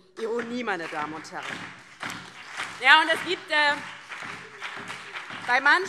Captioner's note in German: Beifall DIE LINKE